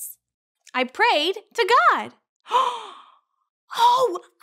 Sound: gasping

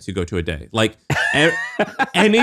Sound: laughing

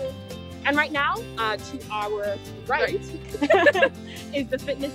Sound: laugh

